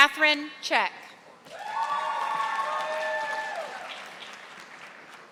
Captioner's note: audience applauding